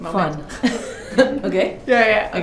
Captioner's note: laughter